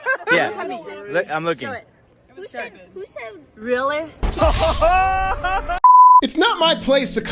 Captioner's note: laughter